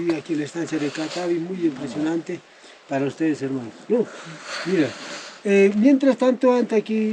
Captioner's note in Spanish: resoplido